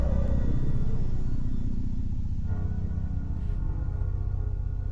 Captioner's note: air quavering